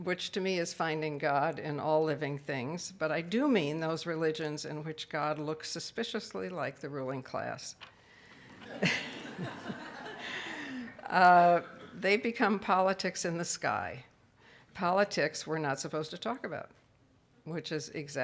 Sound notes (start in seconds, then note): 8.5 audience laughs; 8.5 laughs